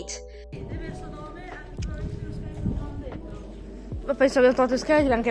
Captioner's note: in Italian